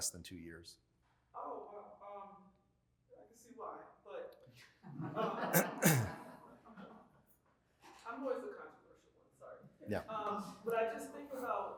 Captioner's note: laughter